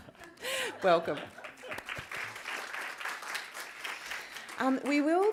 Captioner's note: applause